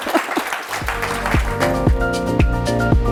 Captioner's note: audience applauding